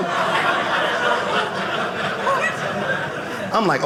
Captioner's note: audience laughing